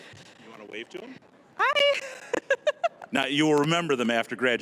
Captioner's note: laughing